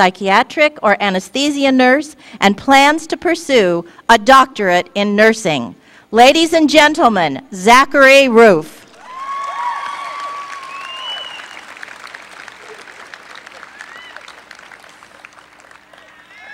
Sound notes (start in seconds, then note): 8.9 applause